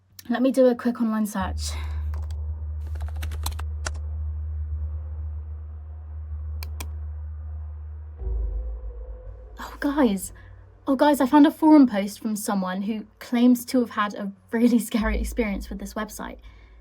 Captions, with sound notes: Let me do a quick online search. (keyboard clacking) (mouse clicking) Oh, guys, oh guys, I found a forum post from someone who claims to have had a really scary experience with this website.